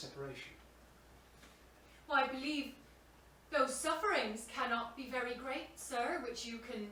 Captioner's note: country accent